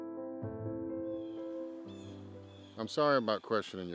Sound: birds chirping

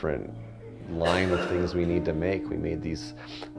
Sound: man coughing

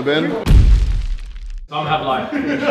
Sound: explosive sound; laughing

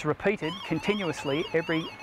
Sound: alarm sound

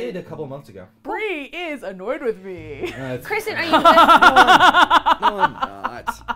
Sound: laughs

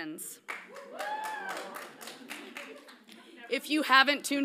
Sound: audience cheers lightly

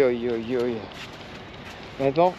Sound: speaking in foreign language

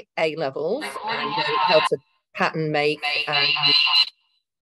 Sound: speaking faintly

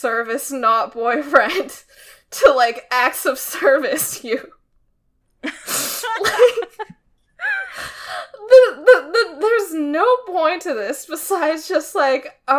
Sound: laughs

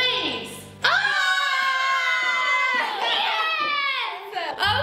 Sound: scream

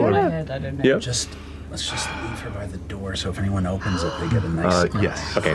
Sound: gasps

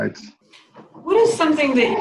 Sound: air whooshes

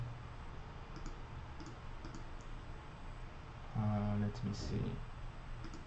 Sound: mouse clicking

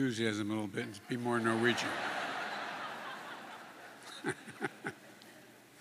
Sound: laughter

